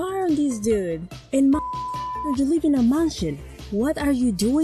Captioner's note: long beep